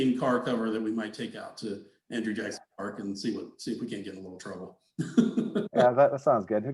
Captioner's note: laughs